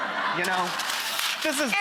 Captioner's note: audience laughs